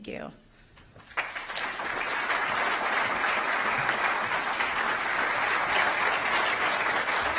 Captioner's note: applause